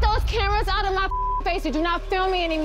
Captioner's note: dramatic music; beep